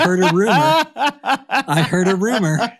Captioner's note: laughing